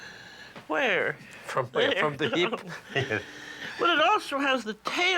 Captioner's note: chuckles